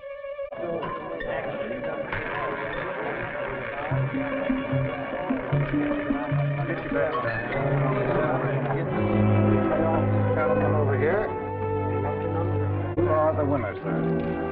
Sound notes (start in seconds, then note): 2.1 roulette wheel spinning; 6.5 players chattering; 9.0 dramatic music